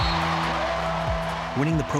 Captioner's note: crowd cheering